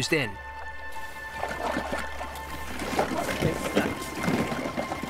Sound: water splashing

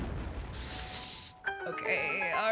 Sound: sharp Inhale

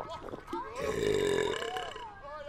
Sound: burp

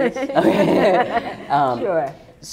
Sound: laughter

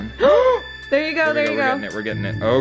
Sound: gasps

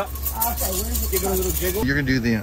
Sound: cup rattling

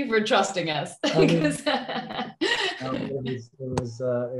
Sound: laughs

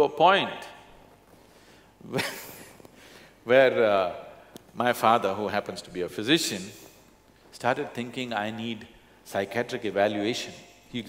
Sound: laughs

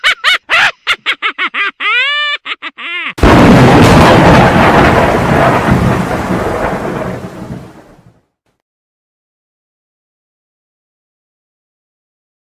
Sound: evil laugh

